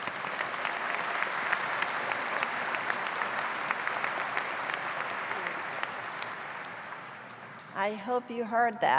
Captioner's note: applause